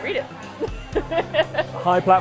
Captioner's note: laughing